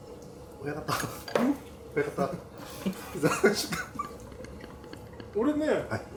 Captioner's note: laughs